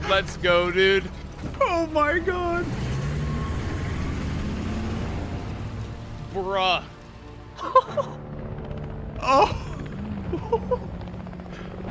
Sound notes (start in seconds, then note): 7.6 giggles; 9.3 chuckles